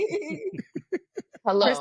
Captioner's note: laughing